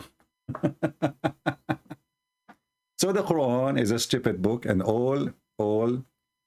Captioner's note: Ketawa